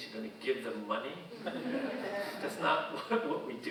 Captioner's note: audience laughing